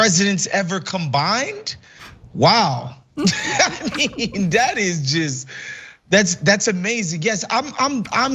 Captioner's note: laugh